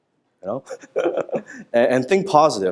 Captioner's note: laughter